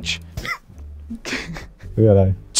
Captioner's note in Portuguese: risadas